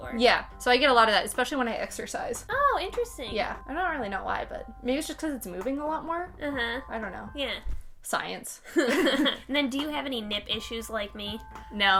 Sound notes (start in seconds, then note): 8.8 laughing